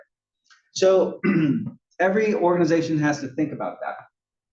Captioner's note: cough